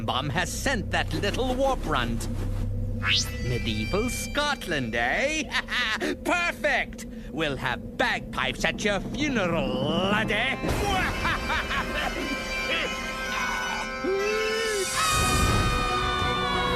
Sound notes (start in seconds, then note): 5.3 laughs; 6.7 in Scottish accent; 10.8 laughing; 14.9 screaming